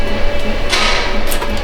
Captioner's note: metal Clanking